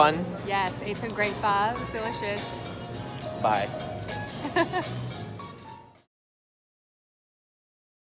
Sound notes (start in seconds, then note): 4.4 laughs